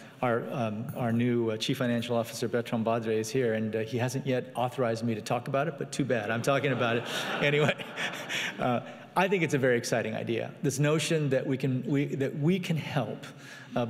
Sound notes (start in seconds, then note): 6.6 laughing